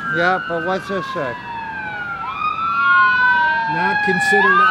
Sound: sirens

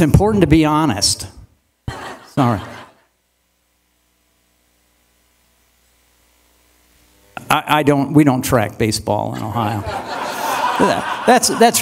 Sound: laughter

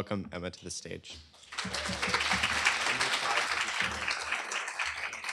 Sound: applause

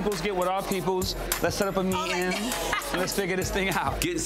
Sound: laughs

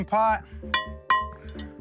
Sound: pot dings

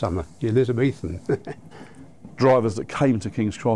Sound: chuckles

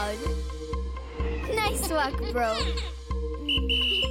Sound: whistle blowing; laughing

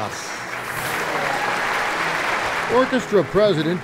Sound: audience applauds

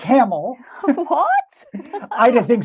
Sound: chuckles

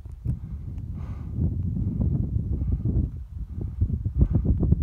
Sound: breathes heavily

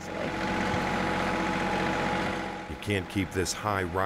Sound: machinery whirring

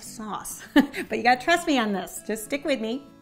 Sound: laughs

